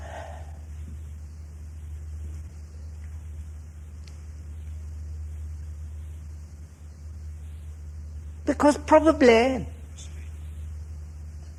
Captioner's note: sighs